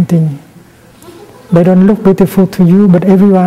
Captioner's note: giggles